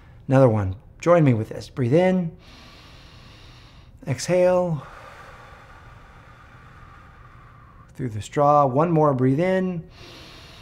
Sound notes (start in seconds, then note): 2.4 inhaling; 4.8 exhaling; 9.8 inhaling